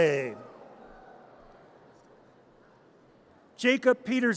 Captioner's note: audience cheers